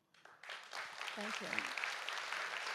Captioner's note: audience applauds